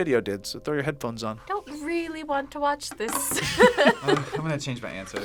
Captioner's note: laughs